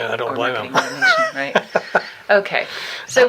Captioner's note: laughing